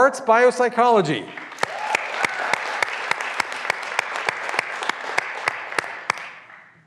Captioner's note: graduands cheering and applauding